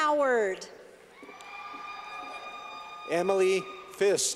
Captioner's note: clapping